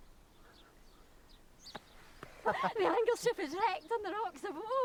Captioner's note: all laugh